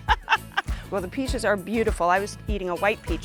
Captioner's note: laughing